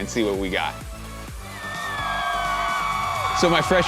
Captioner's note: students cheering